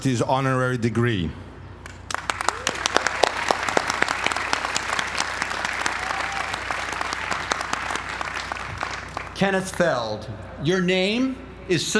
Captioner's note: applause